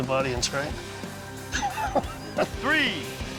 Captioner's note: laughs